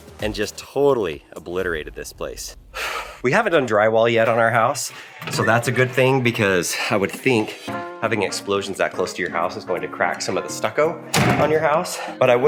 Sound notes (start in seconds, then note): 2.9 sighs; 11.1 door clacks